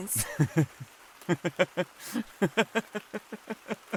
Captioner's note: laughing